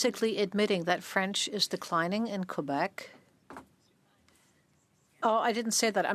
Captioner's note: speaking French